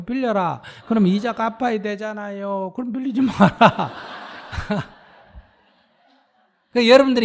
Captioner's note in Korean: 스님 / 청중 웃음